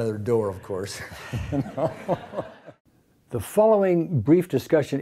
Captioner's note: laughs